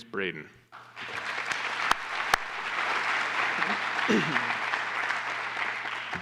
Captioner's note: applause